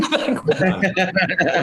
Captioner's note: laughter